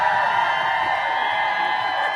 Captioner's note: applause